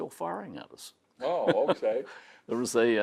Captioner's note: laughing